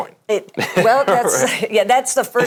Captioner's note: laughs